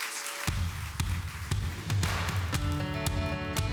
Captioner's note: applause